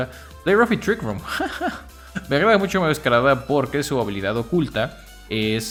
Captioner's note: laughs in Spanish